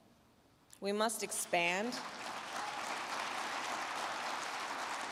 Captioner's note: crowd clapping